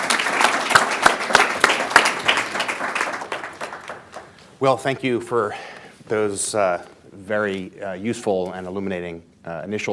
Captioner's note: applause